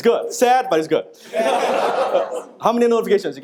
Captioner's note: audience laughing